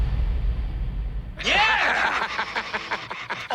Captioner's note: laughs